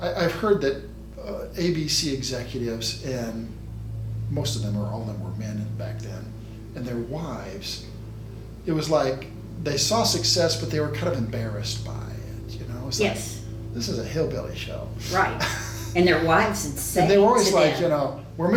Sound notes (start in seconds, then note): 15.0 laughs